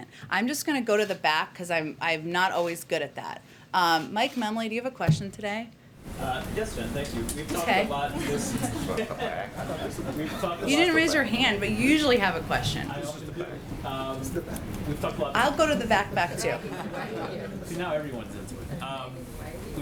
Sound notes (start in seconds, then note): 8.1 laughter; 16.5 laughter